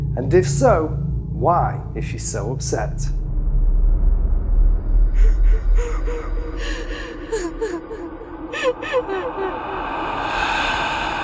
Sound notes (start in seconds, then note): 3.6 eerie music; 5.2 woman sobbing; 5.7 eerie music